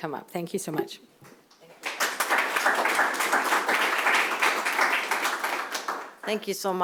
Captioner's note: applause